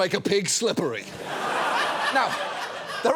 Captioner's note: audience laughs